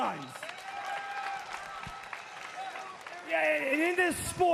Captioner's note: crowd cheering